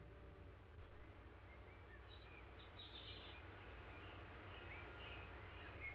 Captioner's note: birds chirping